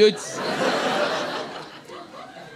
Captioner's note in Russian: смех